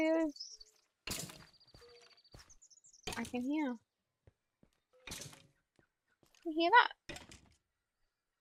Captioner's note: bone clanking noises